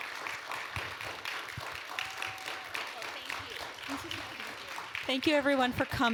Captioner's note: applause